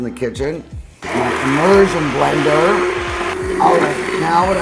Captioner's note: blender revving